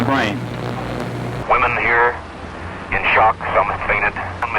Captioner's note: original radio sound